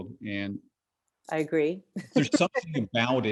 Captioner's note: laughs